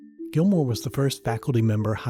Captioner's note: voiceover